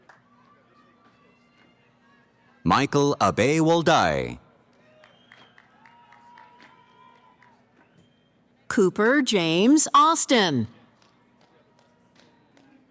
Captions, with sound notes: Michael Abay Woldai. [ Cheering ] >> Cooper James Austin.